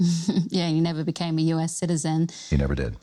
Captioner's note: chuckles